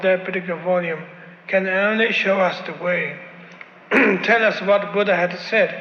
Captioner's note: clears his throat